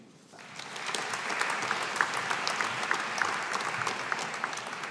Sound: audience applauding

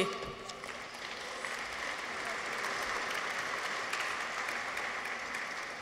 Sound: audience applauds

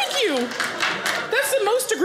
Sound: audience applauding

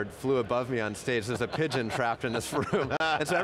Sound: laughter

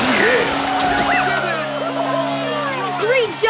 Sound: cheering

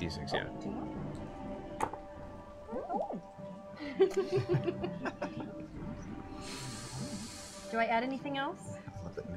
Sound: giggles

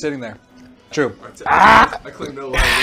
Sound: disgusted Screaming; hard Exhale

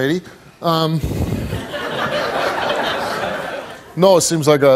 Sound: audience laughs

